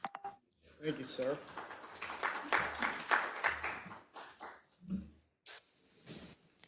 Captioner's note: attendees applauding